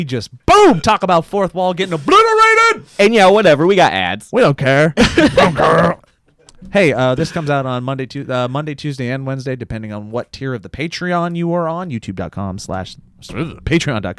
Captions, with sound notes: - We just, boom, talk about a fourth wall getting (shouts) obliterated! - And yeah, whatever, we got ads. - We don't care. (in gruff voice) We don't care. Hey, this comes out on Monday, Tuesday, and Wednesday, depending on what tier of the Patreon you are on. Patreon.com/